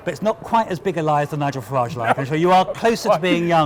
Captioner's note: laughter